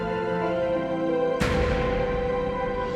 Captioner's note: door slams shut